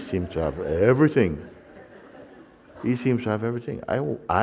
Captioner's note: laughter